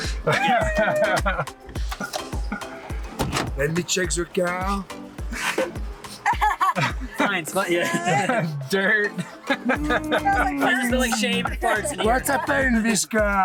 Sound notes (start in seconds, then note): 9.3 laughing